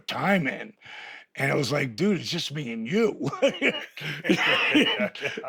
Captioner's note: laughs